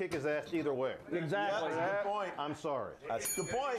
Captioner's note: bell rings